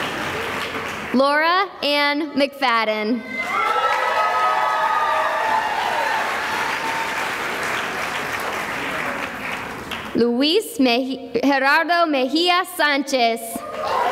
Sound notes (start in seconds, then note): 0.0 cheering and applause; 3.3 cheering and applause